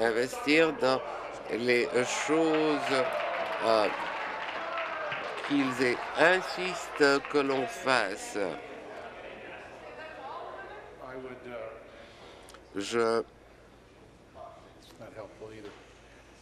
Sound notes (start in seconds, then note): 5.7 applause